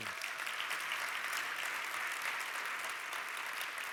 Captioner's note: applause